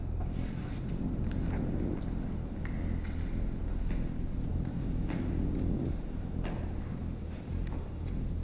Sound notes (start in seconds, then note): 0.7 footsteps